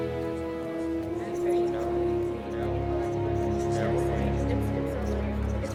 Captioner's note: group chattering